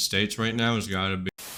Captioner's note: static